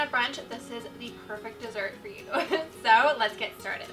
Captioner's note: laughs